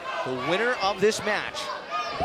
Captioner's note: fans chanting